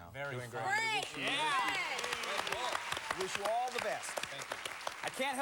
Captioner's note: cheers and applause